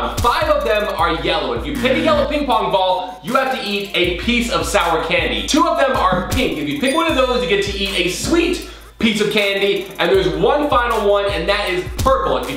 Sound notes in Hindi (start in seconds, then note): 1.8 बजर; 6.1 घंटी dings